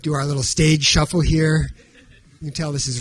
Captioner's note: audience chuckling